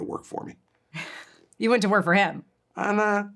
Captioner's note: Hoover laughs